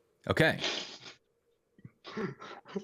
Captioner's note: laughter